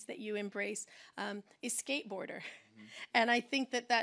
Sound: laughs

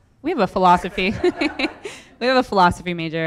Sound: everyone laughs

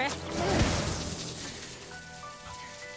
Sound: they grunt

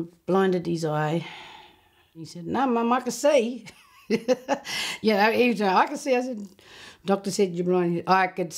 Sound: laughs

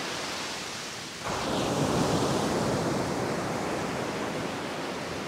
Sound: the sound of the Ocean’s waves splashing against the beach

